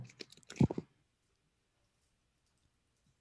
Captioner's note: typing